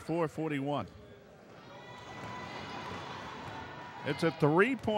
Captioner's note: ball pounding; yelling